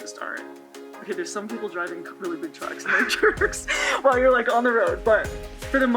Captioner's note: laughs